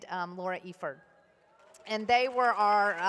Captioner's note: applause